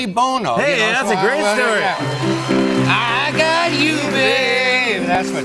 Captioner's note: cheers and applause